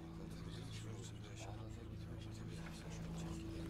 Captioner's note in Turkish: Konuşma sesleri